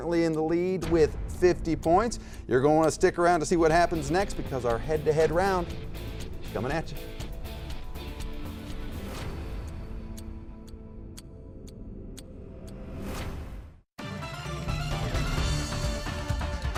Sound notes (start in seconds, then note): 8.0 clock ticks; 8.0 dramatic music